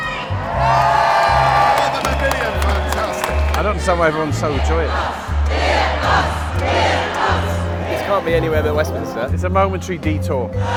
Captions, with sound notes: (Cheers) I don't understand why everyone's so overjoyed. (Cheering) 'Give us! Give us!' It's a momentary detour.